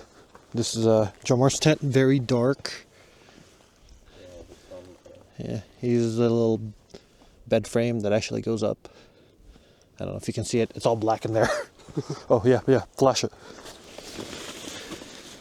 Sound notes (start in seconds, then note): 11.3 chuckles; 11.3 laughs